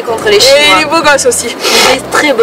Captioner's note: sniff